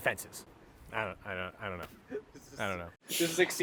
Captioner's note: stammers; laughs